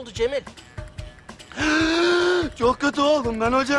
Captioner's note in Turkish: Nefes sesi